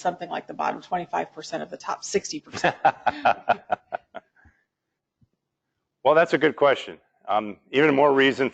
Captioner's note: laugh